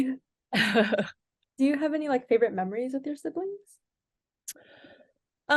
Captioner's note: laughs